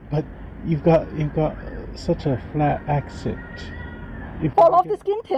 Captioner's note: in a horrible accent